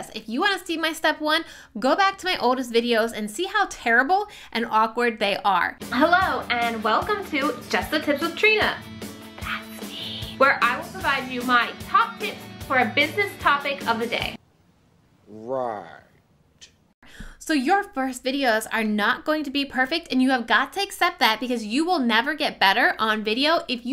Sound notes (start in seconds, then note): 9.5 whispers